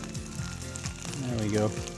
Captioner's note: pan juices sizzling